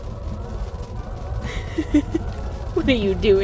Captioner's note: laughs